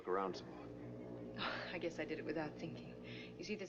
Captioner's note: chuckles